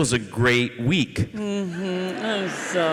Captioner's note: audience laughs